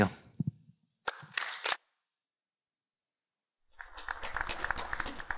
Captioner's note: congregation clapping